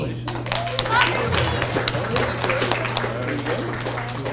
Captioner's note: audience cheers and applauds